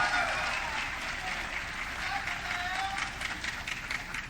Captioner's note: audience cheering